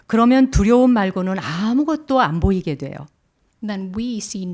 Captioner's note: speaking in Korean